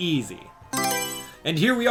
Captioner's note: Mario Selection Sound